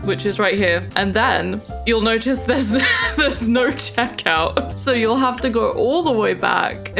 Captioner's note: laughs